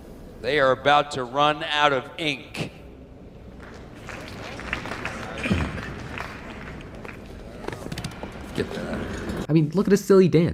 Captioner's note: scattered Applause